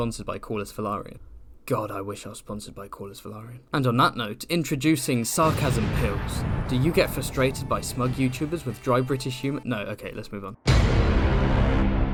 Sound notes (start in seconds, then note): 10.6 Inception BWONG